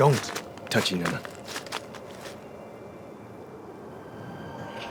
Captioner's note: speaking foreign language